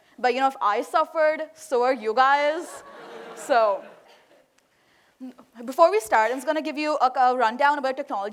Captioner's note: laughter